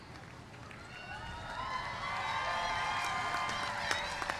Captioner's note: cheers and applause